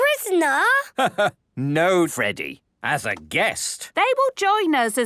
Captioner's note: laugh